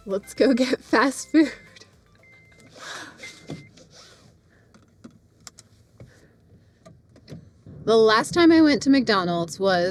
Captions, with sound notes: Let's go get fast food. (beeping) The last time I went to McDonald's was,